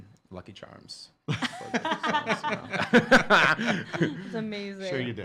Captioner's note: laughing